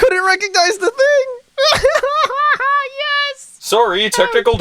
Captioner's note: laughing